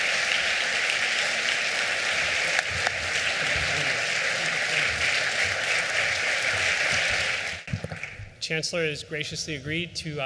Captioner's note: applause